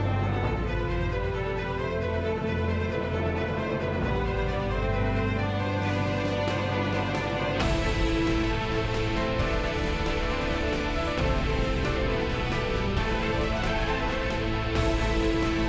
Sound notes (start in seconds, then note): none